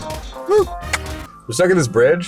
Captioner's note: hand claps